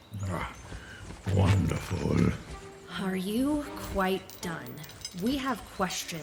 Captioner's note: impatiently